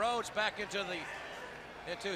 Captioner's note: crowd chatter